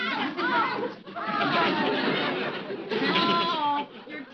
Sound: audience laughing

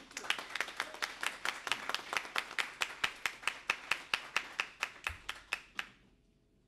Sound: applause

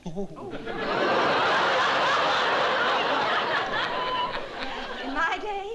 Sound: laughter

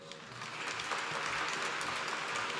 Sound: applause

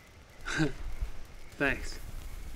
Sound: chuckles

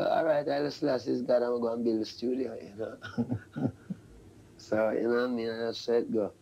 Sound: laughs

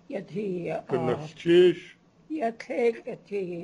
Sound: non-english speech

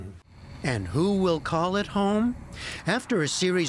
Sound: voice-over

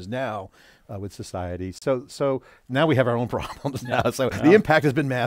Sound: laughing

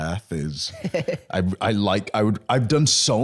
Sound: chuckling

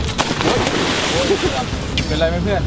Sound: water splashing

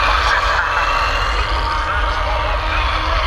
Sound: screaming; police sirens whaling

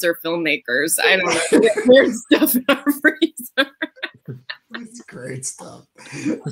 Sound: laughs

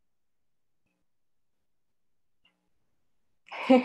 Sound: silence

